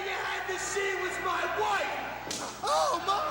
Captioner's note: crowd chatter